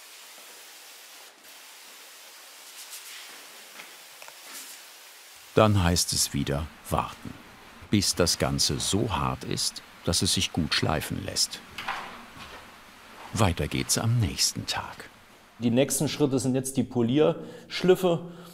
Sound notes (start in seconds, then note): 2.7 air hisses